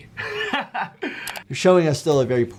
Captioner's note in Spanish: Nikocado se ríe